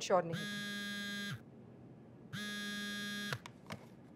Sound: phone vibrating

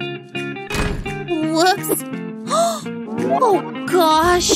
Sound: grumbles

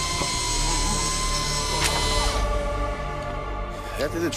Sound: saw buzzing

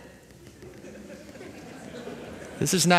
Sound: laughter

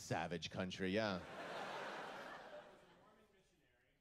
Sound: laughter

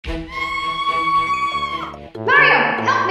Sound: Peach screams

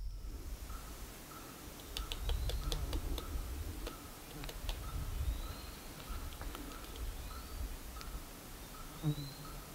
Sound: pecking noises, insects buzzing, birds chirping

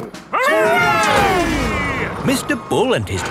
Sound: all cheering

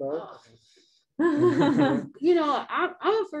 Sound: laughs

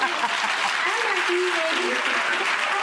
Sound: laughing; audience cheering

